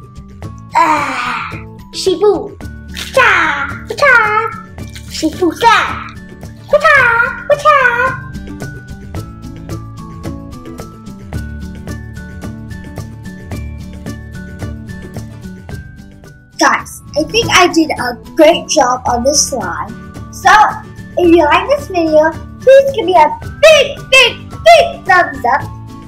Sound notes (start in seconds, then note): 2.8 making kung fu sounds